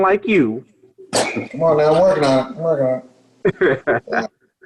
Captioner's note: laughs